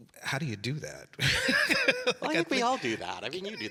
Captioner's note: laughing